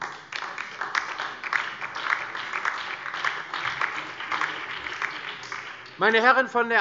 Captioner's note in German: Beifall DIE LINKE und vereinzelt SPD